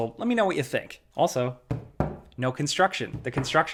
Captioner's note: knocks